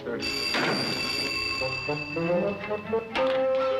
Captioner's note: phone ringing